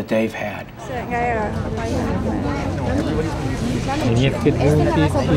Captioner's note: people talking